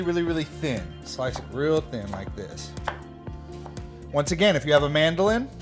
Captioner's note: knife tapping board